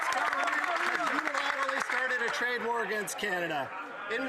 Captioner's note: some Applause